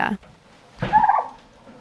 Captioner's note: Frida chirps